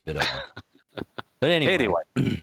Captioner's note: laughing